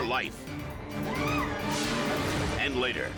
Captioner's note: woman screaming